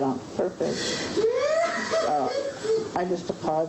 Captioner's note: sobbing